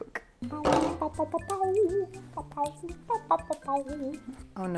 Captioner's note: humming